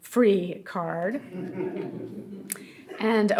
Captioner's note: audience laughing